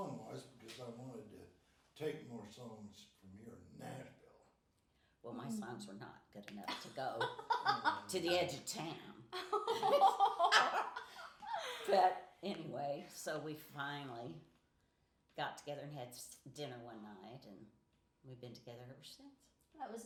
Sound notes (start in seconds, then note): 6.7 laughing